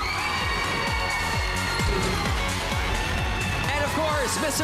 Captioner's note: applause, cheering